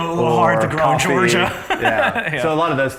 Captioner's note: laughs